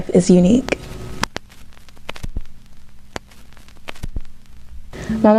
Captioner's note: static